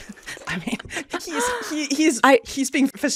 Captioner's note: laughs